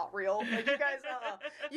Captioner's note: laughing